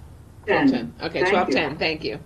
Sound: chattering

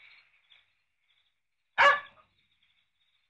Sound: dog barking

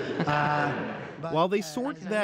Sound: laughter

